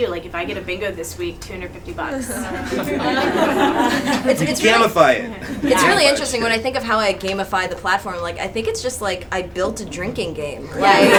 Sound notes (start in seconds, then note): 2.2 audience chuckles; 10.7 attendees laugh